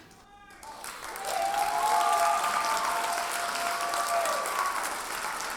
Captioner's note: audience cheers and applauds